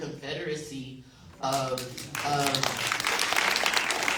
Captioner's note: applause